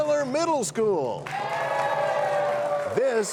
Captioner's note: cheers and applause